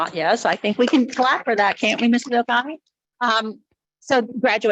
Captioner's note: members clapping